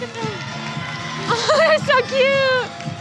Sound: laughing

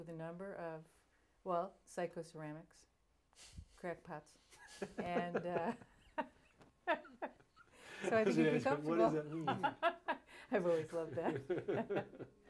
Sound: laughs

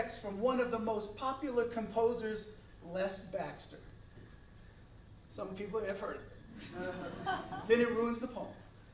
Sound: laughter

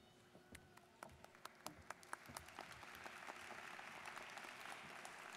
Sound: students applauding

